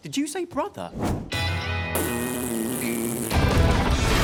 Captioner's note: blowing raspberries